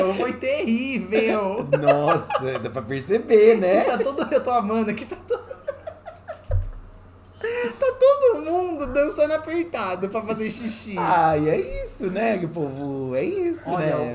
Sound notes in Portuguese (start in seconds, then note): 5.0 gargalha